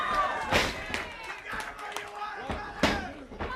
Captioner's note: crowd chatter